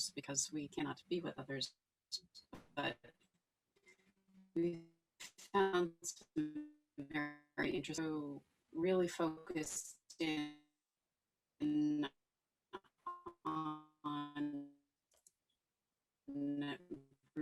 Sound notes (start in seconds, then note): 5.3 faintly speaking; 11.1 faintly speaking